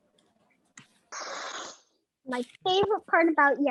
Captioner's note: sighs